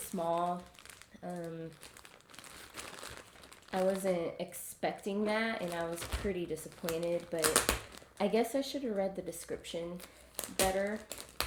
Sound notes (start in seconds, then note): 5.3 opening bag